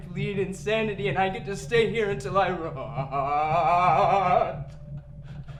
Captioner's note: laughs